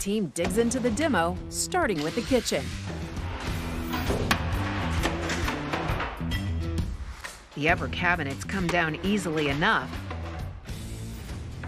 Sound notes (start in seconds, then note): 3.4 light rock music; 4.7 cabinets banging